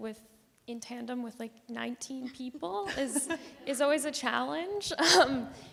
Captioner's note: chuckle